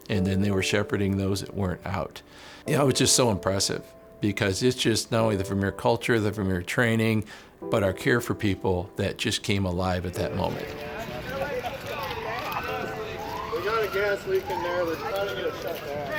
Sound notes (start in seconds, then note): 10.4 background sirens and chatter